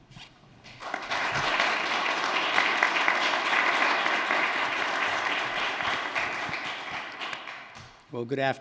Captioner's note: applause